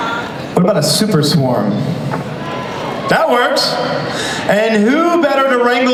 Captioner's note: laughs